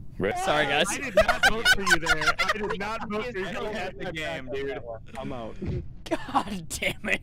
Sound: laughter; laughing

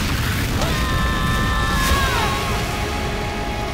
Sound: screaming

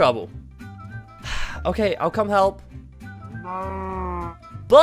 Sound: sigh

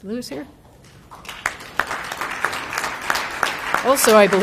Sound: applause

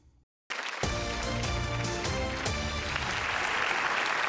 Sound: audience applauds

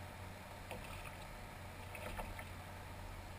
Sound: splash

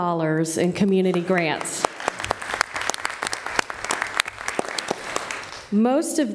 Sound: applause

